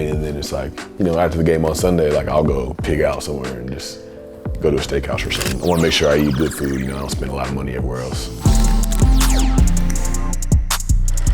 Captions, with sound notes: And then it's like, you know, after the game on Sunday, like I'll go pig out somewhere and just go to a steakhouse or something. [camera shutters] I wanna make sure I eat good food, you know, I don't spend a lot of money everywhere else. [upbeat music]